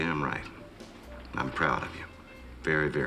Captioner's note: none